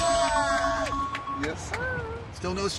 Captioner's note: cheering & applauding